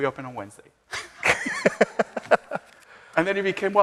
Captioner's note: both laughing